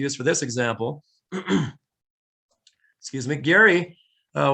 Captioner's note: clears throat